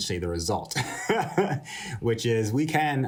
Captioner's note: laughter